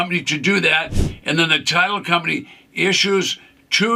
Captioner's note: screen whooshes